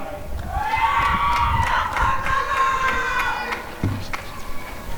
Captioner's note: applause and cheering